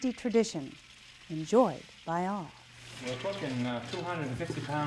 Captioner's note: dry beans rattle